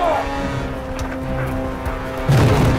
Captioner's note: gunshots; wind howls